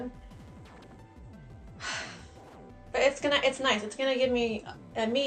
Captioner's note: sighs sadly